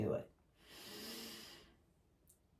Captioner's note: audibly inhaling through nose